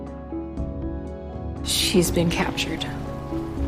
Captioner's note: voiceover